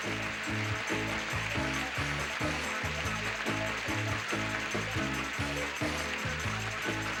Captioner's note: audience applauding